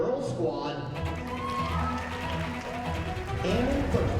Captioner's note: cheers and applause